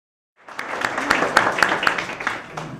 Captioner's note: applause